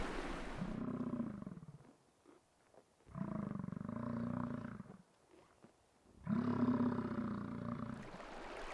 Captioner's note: rushing water; grunting bison; gurgling stream